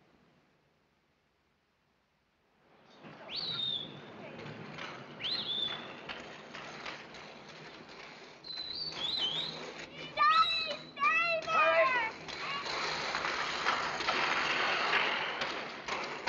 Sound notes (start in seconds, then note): 3.4 he whistles; 8.4 whistling